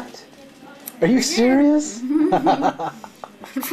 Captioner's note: laughing